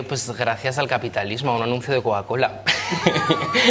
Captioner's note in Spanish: todos ríen